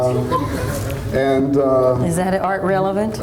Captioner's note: audience laughs